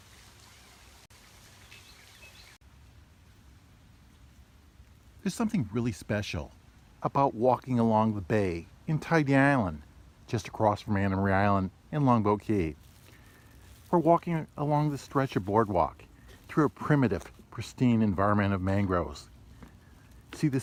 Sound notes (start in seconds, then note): 1.5 birds chirping